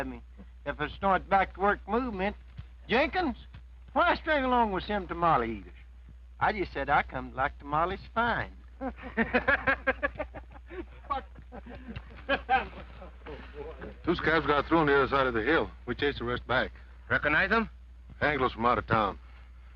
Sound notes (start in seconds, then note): 8.7 men laugh